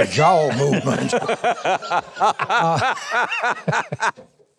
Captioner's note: laughing